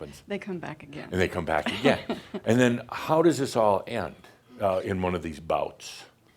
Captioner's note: she chuckles